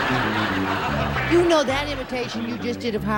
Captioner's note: laughter